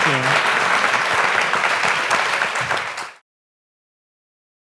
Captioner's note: audience applauding